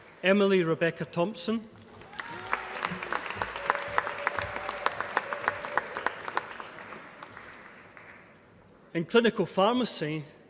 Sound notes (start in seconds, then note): 1.8 applause